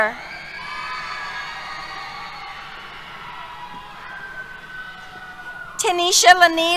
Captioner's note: cheers